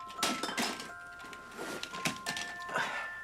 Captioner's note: toys clatter